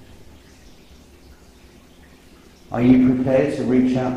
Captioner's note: water dripping